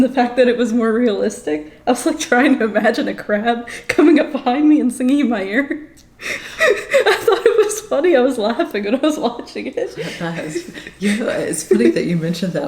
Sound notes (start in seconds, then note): 6.2 laughs